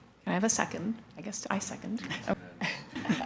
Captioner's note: laughs